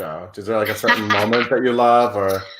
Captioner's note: laughs